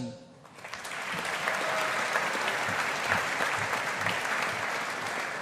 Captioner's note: audience applauding